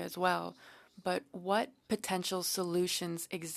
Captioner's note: speaking French